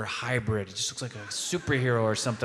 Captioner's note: audience laughing